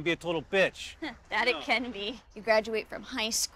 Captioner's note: chuckles